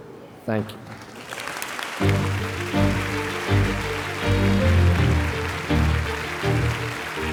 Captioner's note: audience applauding; upbeat music